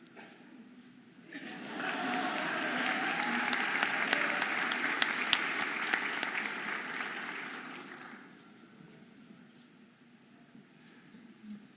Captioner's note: audience applauding and cheering